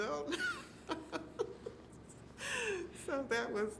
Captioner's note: laughing